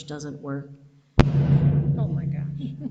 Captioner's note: speaker thuds